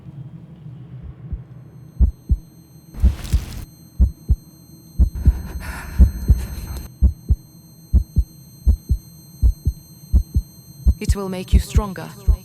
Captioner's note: heartbeat